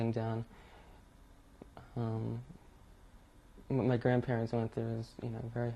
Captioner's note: pauses for 3 seconds